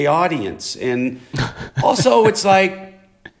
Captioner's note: laughter